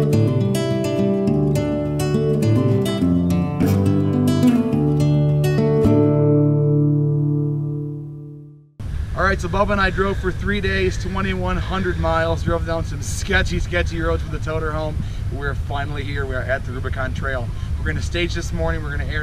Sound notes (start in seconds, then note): none